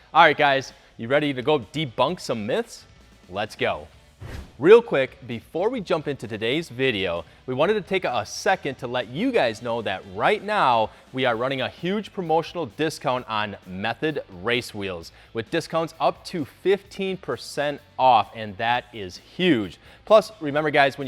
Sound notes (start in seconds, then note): 4.1 whooshes